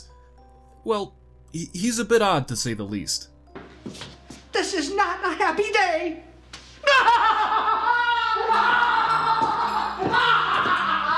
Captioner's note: laughs like a maniac